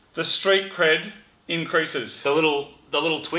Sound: none

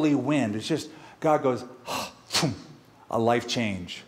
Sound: breath

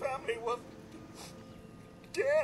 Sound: sniffle

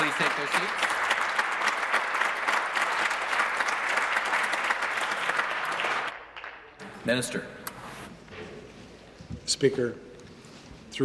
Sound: applause

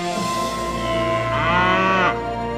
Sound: mooing

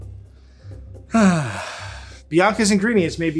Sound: sighs

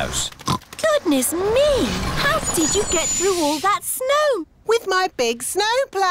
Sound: oinks

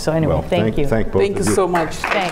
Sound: applause

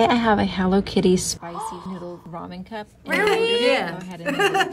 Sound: gasps; laughs

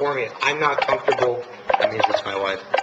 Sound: cell phone ringing

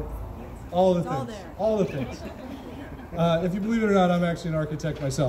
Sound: crowd chuckles

